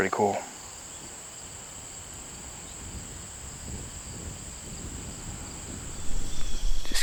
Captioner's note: insects